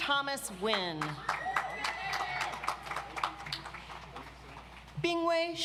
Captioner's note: audience applauds